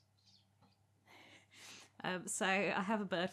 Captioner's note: chirrups and scrabbling noises